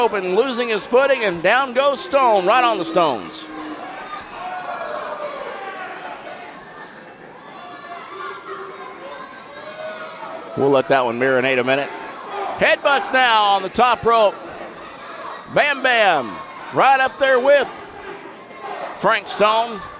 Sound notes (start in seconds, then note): 6.3 crowd yells